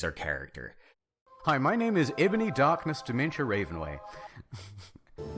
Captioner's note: snickering